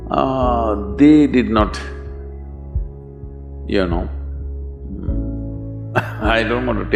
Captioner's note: laughs